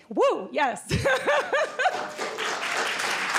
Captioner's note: laughs; applause